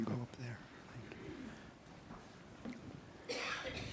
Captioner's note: murmuring